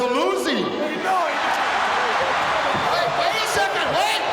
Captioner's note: audience cheering